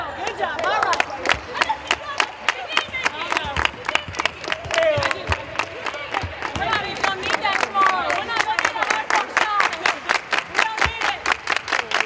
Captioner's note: clapping